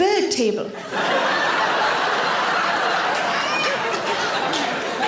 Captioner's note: audience laughs